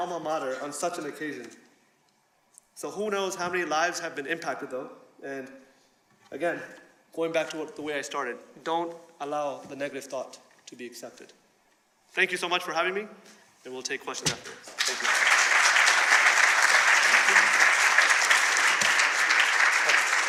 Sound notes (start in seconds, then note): 14.6 applause